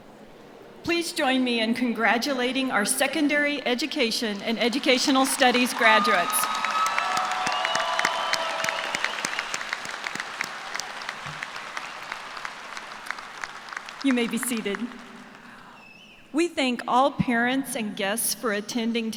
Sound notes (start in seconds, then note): 11.7 cheers and applause